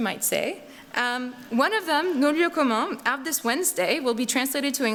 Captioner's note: non-english speech